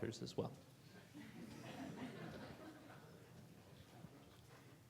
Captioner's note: audience laughing